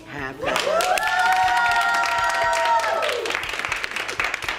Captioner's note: cheering